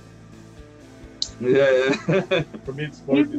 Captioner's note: Смех